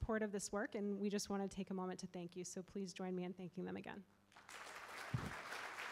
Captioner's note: applause